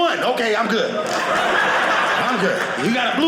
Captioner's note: audience laughing